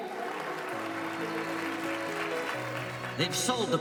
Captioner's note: audience cheers and applauds